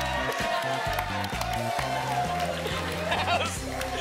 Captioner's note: applause and cheering